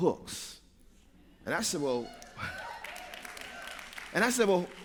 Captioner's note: cheers